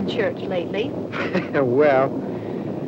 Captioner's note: laughs